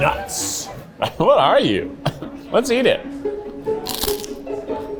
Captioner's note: light, mysterious music; crunches